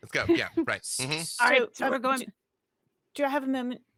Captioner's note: murmurs